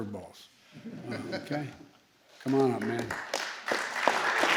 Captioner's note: laughter; applause